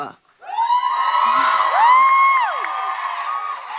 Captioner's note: audience cheering loudly